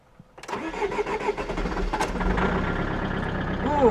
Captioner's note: engine sputters